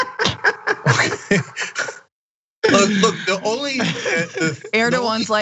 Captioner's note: laugh